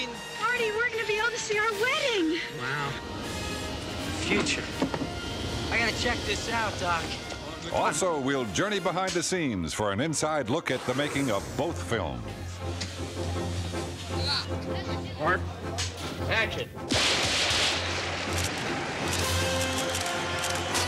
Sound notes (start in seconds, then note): 16.9 bangs; 18.2 shutters clicking